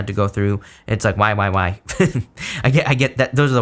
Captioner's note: chuckles